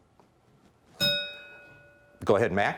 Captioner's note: bell rings